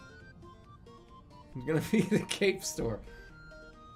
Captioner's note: giggles